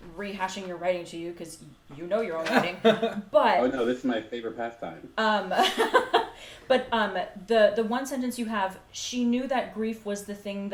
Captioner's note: laughs